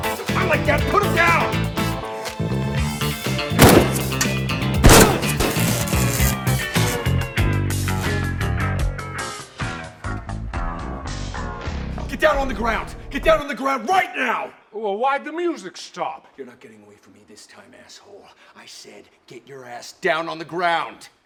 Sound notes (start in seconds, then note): 3.5 gunshot; 5.7 static as Disco Music distorts and dies out